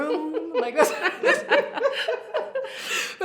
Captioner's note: both laugh